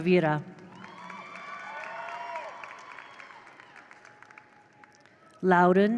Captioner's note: attendees applaud; attendees cheer